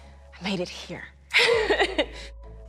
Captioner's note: laughs